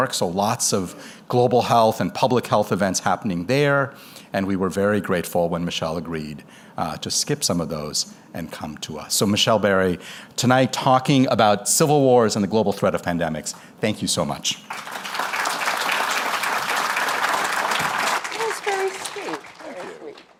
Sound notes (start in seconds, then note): 14.6 applause